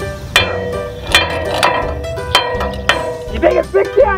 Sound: metal clanging

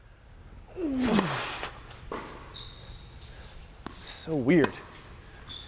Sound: grunts

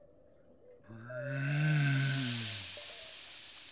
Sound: groaning

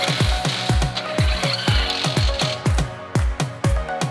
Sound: cranking; drill buzzing

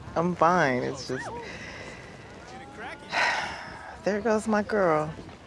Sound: sighs

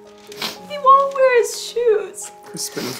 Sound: sniffling

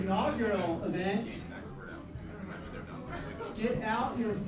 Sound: chattering

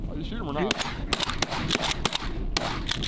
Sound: gunshots

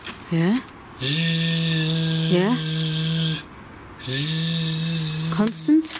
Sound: imitates a drill

